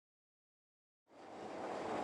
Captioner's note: train moving